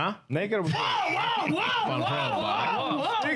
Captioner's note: speaking In Foreign Language